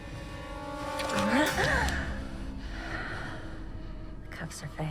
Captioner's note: Elaine exclaiming